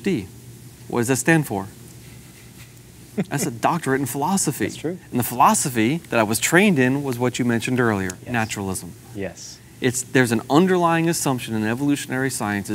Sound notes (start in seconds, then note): 3.1 laughs